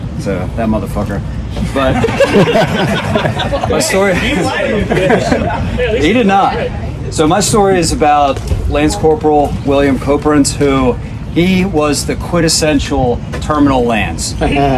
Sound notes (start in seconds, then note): 1.6 members of the audience laughing